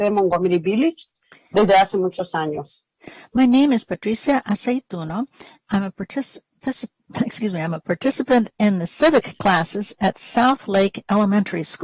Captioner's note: speaking spanish